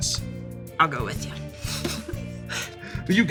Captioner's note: laughs